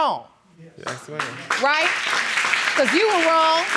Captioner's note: audience clapping